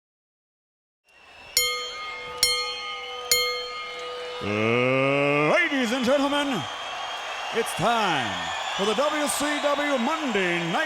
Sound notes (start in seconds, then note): 1.5 bell dinging